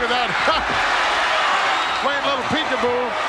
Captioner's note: audience cheers